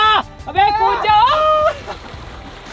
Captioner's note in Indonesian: Teriakan